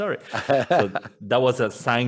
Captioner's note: laughs